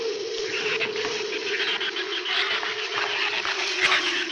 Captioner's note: shrews chatter